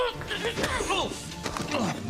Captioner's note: sounds of struggle